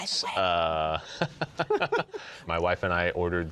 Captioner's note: both laugh